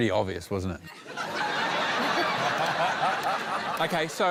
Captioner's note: laughter